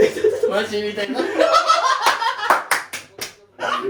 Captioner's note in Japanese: 笑い